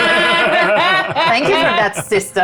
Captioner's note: everyone laughs